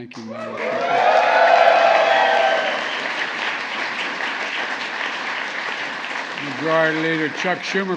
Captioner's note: applause